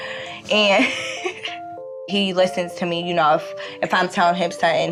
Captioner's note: laughs